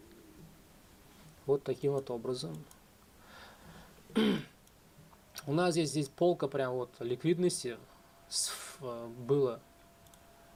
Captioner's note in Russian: откашливается